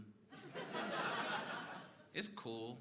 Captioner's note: crowd laughing